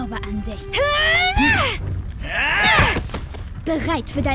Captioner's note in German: Kampfgeräusche und so